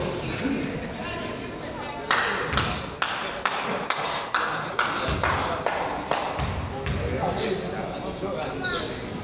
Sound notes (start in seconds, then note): 2.2 crowd applauds